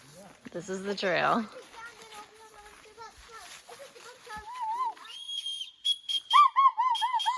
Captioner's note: blowing whistles and yelling